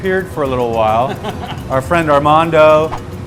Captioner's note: laughing